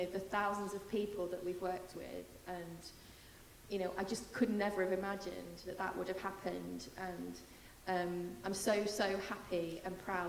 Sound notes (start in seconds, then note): none